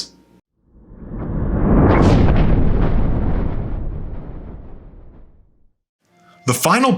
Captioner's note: thunder